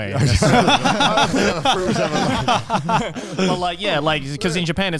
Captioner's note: all laugh